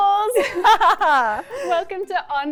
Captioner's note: laughing